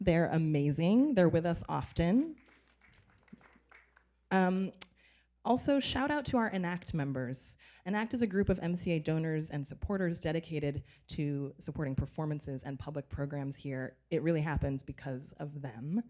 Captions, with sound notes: They're amazing. They're with us often. [Applause] Also, shout out to our Enact members. Enact is a group of MCA donors and supporters dedicated to supporting performances and public programs here. It really happens because of them.